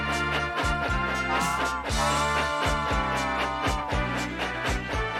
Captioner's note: whistles